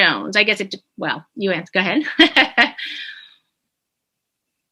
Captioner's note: chuckling